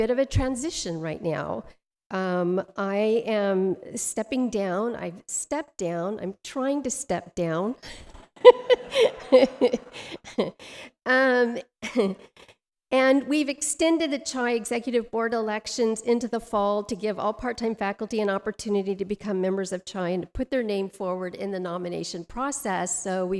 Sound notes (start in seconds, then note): 8.3 laughs; 8.4 audience laughs